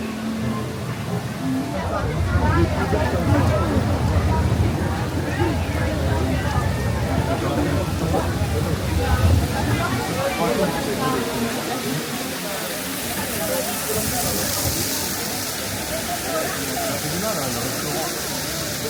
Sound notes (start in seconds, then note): 3.4 guests chattering; 3.4 water rushing; 13.7 guests chattering; 13.7 water rushing